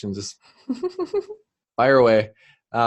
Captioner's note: laughter